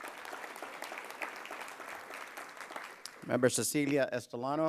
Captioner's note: applause